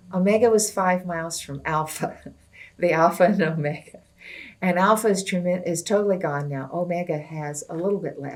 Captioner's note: laughs